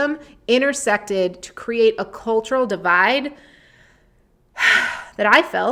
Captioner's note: sighs